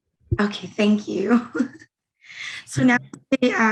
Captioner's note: chuckles